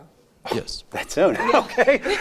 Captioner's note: laughs